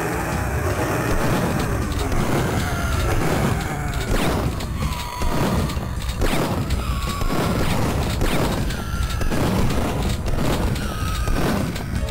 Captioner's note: intense Doorfighting sounds